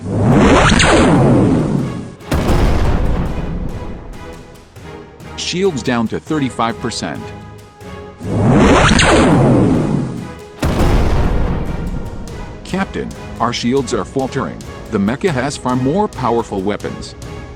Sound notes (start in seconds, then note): 0.0 zap; 2.2 boom; 8.6 zap; 10.6 boom